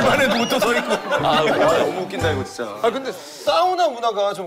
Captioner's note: tearing from so much laughter